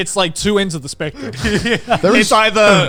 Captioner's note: laughing